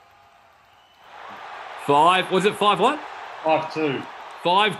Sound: crowd roars

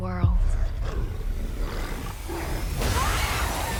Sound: growling; girls screaming

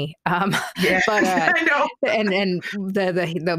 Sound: laughing

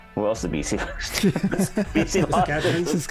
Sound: laughing

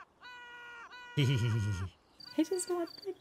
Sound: giggle with evil overtones

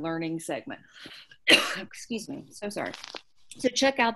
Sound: coughs

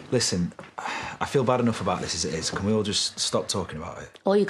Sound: sighs

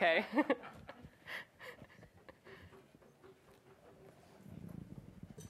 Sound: audience laughs, chuckles

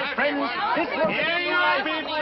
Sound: shouting

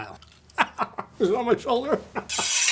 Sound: laughs

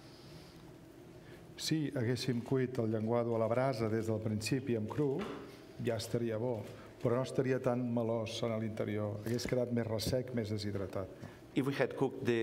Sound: speaking catalan

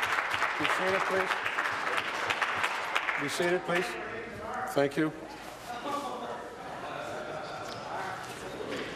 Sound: applause

